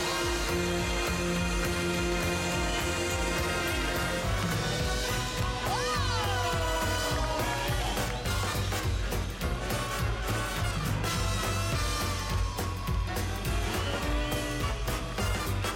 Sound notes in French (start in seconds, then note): 5.1 sifflements